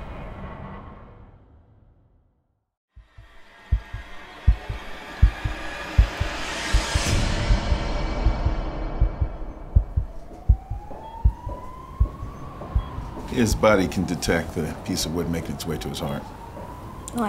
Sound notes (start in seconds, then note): 3.1 dramatic music; 4.5 heart beating; 10.7 siren wailing